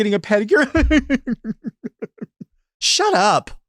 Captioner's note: imitates laughing mockingly